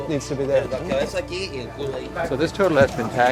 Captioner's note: speaking Spanish